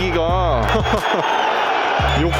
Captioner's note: laughs